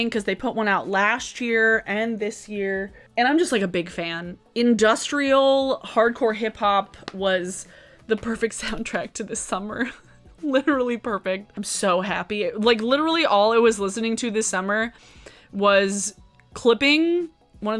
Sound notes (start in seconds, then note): 10.0 laughing